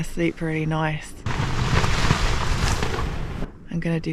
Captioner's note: loud wind & rain